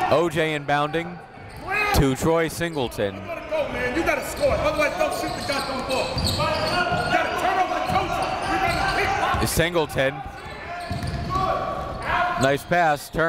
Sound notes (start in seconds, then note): 4.1 coaches yelling; 4.1 crowd talking